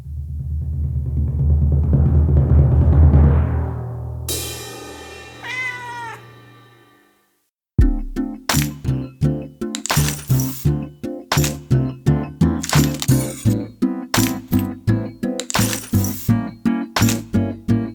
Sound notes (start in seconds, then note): 4.0 cymbal hit; 5.4 cat meows; 8.3 upbeat music